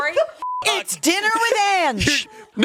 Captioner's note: beep